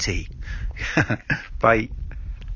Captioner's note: chuckling